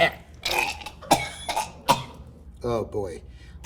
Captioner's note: gurgling; coughs